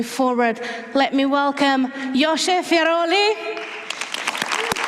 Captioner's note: applause